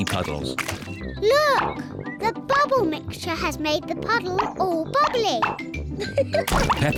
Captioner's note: laughs